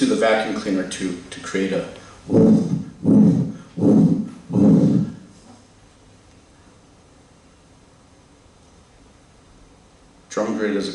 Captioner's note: imitating wind bursts